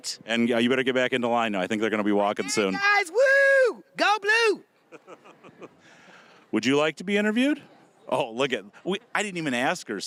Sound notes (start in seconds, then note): 4.9 laughing